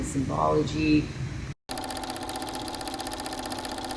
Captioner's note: projector playing sound